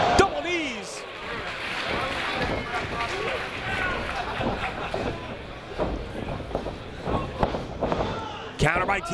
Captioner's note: applause